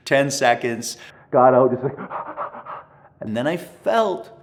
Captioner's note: pants